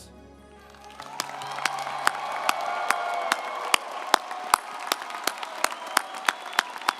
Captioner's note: audience applauding and cheering